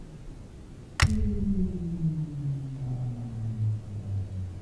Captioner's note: a click followed by something powering down